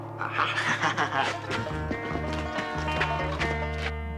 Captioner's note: Will laughing